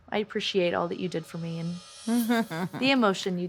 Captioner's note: chuckles